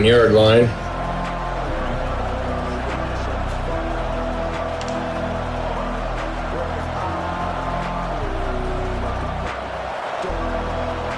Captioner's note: crowd Noises